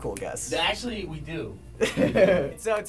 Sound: laughing

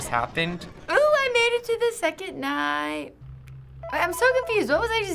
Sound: in game: phone rings

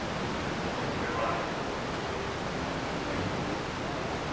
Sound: water rushing

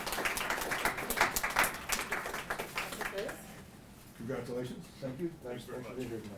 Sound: applause

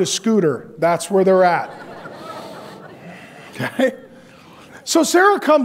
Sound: audience laughs

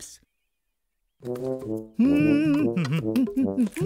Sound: humming

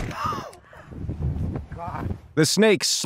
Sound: everyone gasping

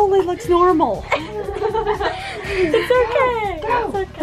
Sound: laughing

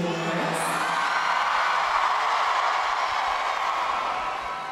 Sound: crowd cheering

